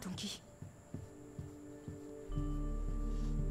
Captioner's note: Footsteps approaching